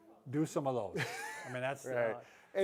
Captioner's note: laughs